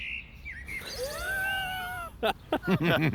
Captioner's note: laughing